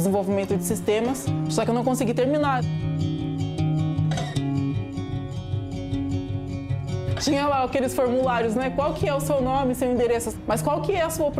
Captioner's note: speaking Non-English